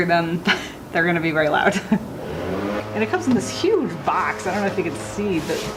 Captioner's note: laughing